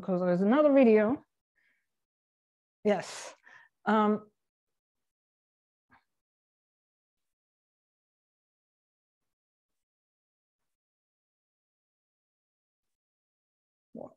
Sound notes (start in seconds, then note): 5.2 silence